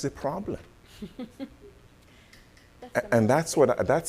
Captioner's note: laughing